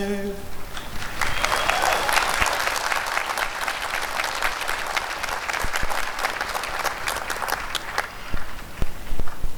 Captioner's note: applause